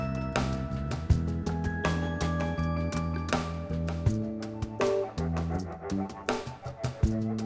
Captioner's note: none